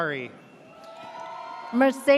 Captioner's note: audience cheers